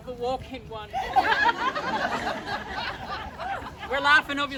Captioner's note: laughter